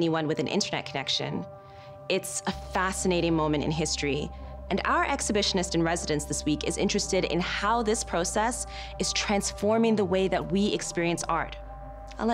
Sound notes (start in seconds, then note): none